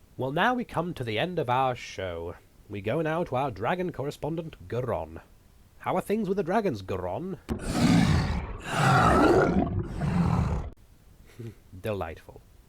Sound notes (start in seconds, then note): 7.5 growling and roaring; 11.3 chuckles